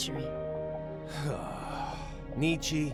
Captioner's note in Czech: povzdech/povzdechnutí